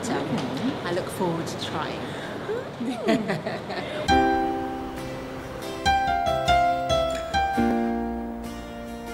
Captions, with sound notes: but I look forward to trying. (laughs) (gentle music)